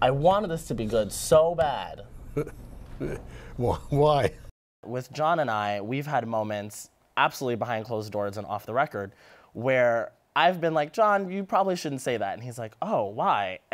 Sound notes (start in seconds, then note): 2.2 chuckles